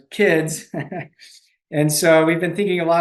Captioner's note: chuckles